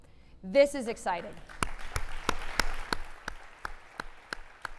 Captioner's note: applauding